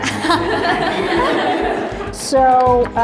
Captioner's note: laughter